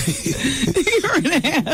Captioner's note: laughing